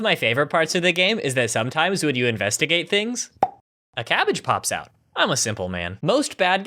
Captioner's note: pop